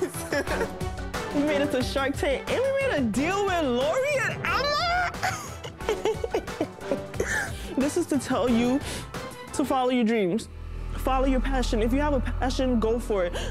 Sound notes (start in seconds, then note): 0.0 laughs; 4.9 laughs